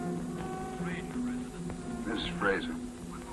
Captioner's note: on phone